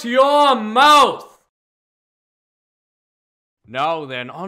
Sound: silence

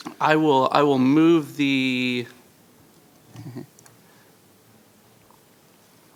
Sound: chuckles

